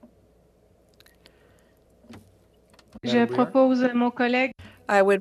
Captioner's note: speaking FRENCH